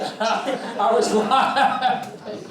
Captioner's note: all chuckling